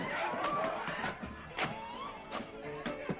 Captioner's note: people clamoring